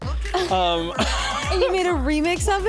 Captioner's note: laughs